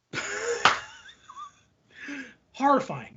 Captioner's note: laughing